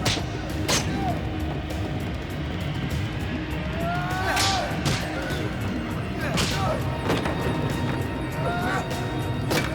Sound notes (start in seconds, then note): 0.2 thuds; 4.3 grunts and groans; 4.3 thuds and clangs